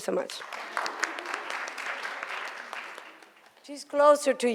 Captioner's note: audience applauds